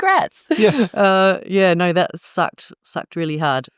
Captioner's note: laugh